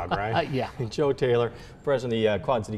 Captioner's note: laughs